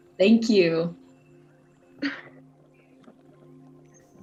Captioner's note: soft music; chuckle